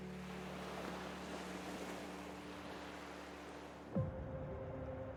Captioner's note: waves crashing against the shore; tender piano, water current